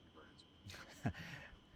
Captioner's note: laughing